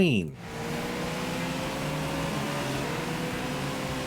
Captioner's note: car engine revs